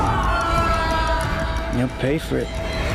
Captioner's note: woman screaming